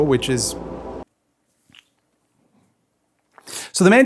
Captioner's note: exasperated silence